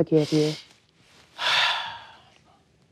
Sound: relieved sigh

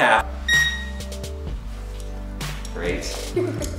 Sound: scanner beeps

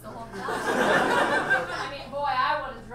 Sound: audience laughs

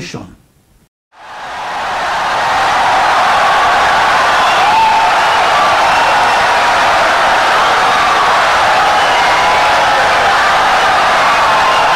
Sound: wild applause and cheering for 17 seconds

